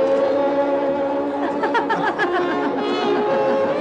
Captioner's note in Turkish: Ortam gürültüsü, kahkaha sesleri